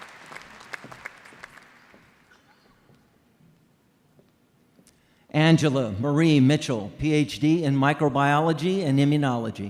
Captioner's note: applause